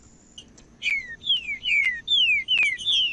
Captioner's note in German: trinca ferro cantando